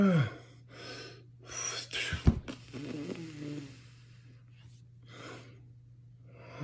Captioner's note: whew!